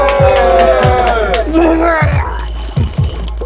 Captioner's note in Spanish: vomita